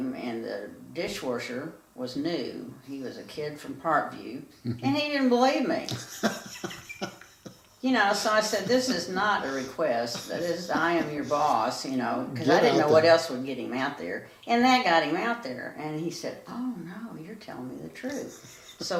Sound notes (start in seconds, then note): 5.9 laughs